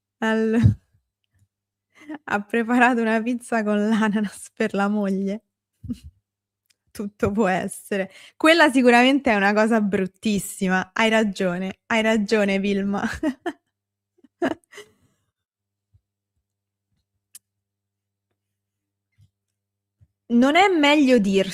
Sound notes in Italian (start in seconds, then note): 13.0 risate